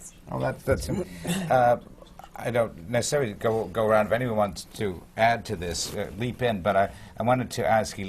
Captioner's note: laughter